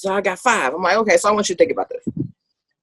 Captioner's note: none